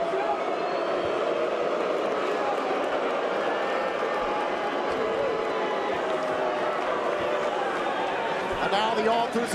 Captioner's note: crowd chatter